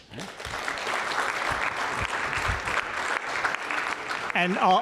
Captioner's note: applause